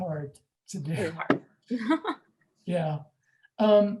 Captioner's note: laughs